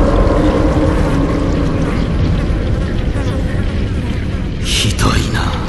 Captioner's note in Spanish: moscas volando